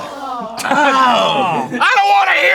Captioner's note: all sorts of disgusted noises